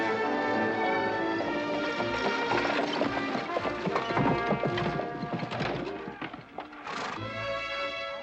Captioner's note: triumphant music; buggy rattling